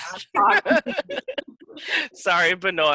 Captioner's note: laughing